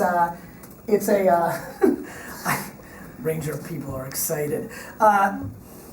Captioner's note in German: kichert